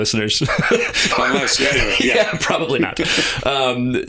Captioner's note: laughter